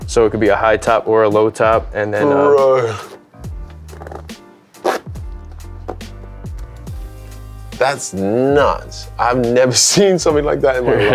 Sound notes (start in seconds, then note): 4.7 zippers rattling; 10.8 laughs